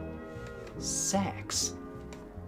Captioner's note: whispers